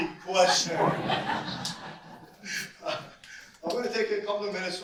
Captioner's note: audience laugh